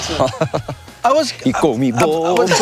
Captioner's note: laughter